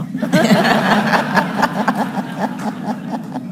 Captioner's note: laughing